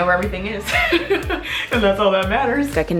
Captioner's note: laughs